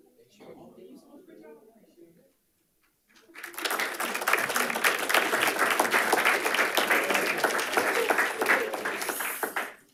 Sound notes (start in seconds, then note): 3.3 panelists applauding